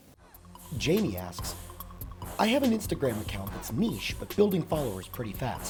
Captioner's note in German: Voice-over